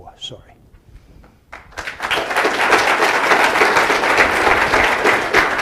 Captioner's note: applause